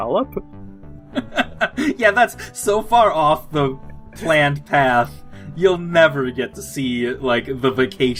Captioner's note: laughs